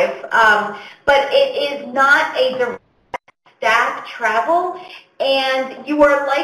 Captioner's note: audio skips